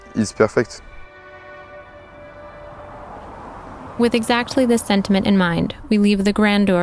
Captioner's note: sounds of tires of road